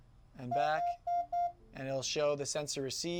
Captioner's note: beeping